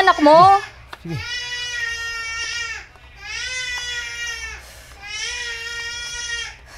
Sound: baby crying

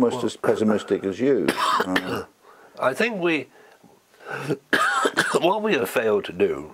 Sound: cough

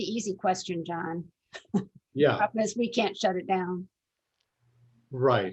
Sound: laughter

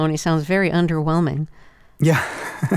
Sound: laughter

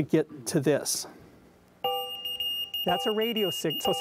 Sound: beeping

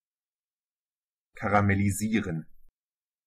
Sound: fast Pronunciation

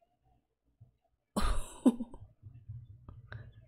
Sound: laughs

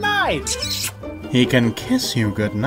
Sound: muuuah

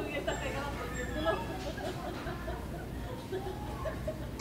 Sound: laughing

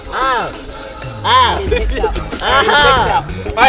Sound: laughing

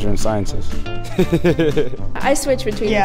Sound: laughs

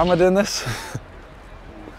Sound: giggles

